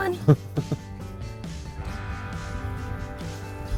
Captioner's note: man laughing; upbeat music